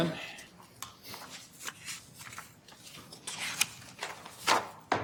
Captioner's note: papers rustling